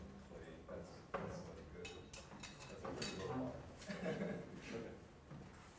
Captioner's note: laugh